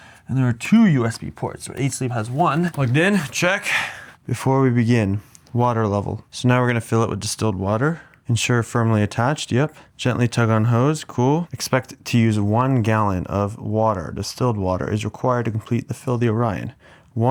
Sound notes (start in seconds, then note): 3.6 sighing